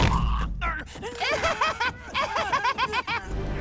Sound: laughing

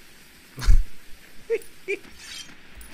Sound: Minecraft witch noise

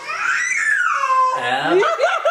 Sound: screaming; laughing

